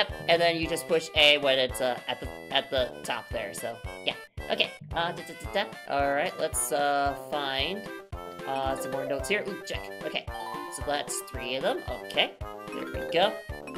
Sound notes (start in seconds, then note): 5.2 stammering